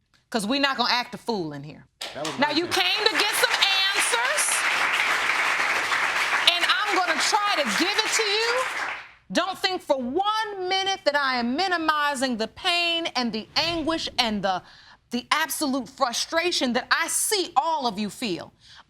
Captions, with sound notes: 'Cause we're not gonna act a fool in here. Now, you came to get some answers, (AUDIENCE APPLAUDING) and I'm gonna try to give it to you. Don't think for one minute that I am minimizing the pain and the anguish and the absolute frustration that I see all of you feel.